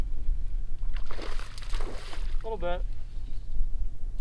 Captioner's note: water splashing